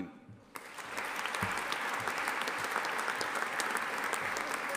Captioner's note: audience applauding